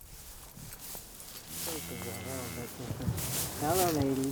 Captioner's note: cow mows